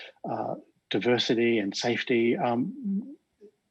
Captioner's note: chuckles